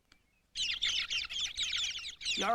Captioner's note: chirping